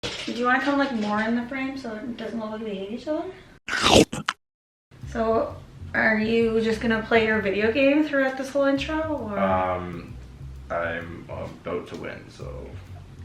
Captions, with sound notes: - Do you want to come like more in the frame so it doesn't look like we hate each other? (loud chomping) So, are you just gonna play your video game throughout this whole intro or? - Um, I'm about to win, so.